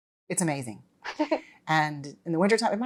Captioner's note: Georgia chuckles